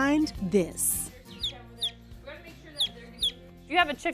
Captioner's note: chirping